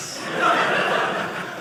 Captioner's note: audience laughing